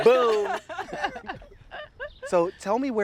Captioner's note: all laughing